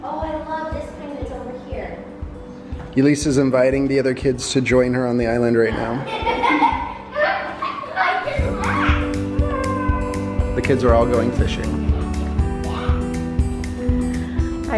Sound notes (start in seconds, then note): 6.0 laughs; 11.8 lighthearted guitar music